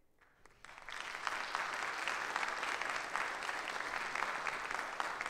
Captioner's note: audience applauding